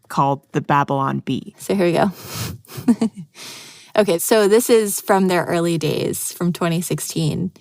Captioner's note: laughs